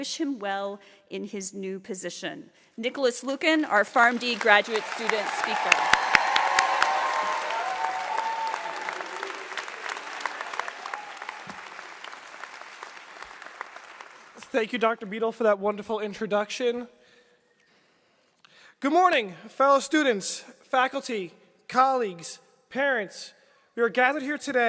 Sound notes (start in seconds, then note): 8.6 applause